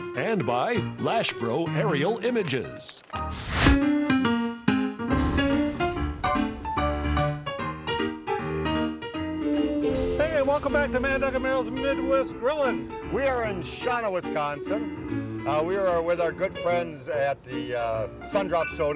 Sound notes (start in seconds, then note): 3.2 torch blowing; 3.9 upbeat keyboard music